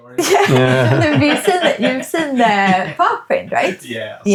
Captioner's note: laughing